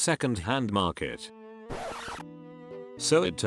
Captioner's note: record scratch